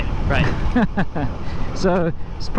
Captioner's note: chuckles